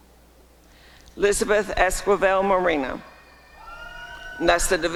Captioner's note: applause and cheering